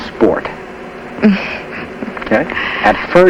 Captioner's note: laughs uncomfortably